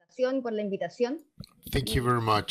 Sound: speaking foreign language

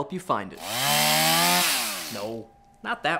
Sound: chain saw whirs

